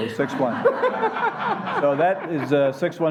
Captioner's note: laughing